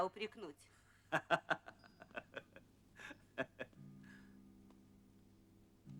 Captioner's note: laughter